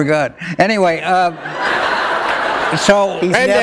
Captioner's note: laughter